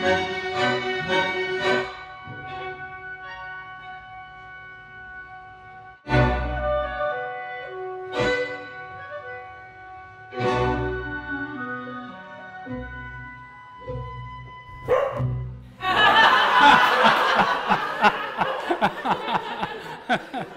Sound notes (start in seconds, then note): 14.8 dog woofs; 15.8 laughter; 17.3 laughter continues